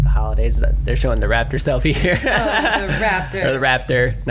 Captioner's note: laughs